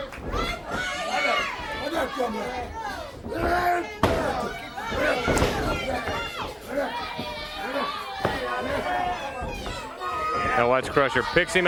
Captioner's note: crowd chatter